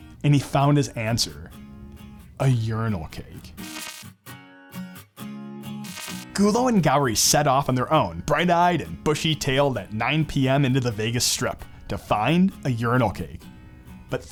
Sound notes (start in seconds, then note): 3.6 electric buzzing; 5.8 electric buzzing; 5.9 upbeat music